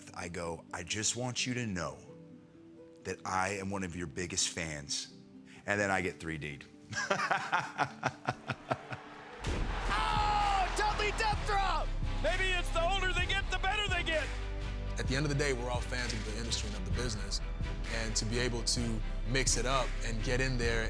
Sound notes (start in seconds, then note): 6.9 laugh